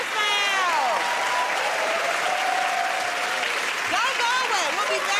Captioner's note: cheers and applause